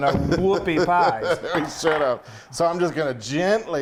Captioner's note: laughing